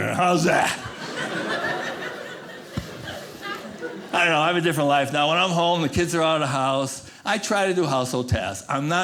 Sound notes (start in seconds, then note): 0.5 audience laughing